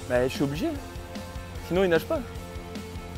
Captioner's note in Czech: mluví francouzsky